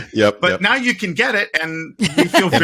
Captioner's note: laughing